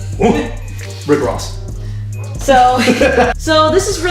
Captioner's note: laughter